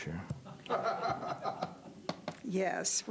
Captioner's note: laughter